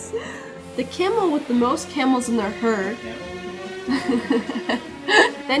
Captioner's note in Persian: می خندد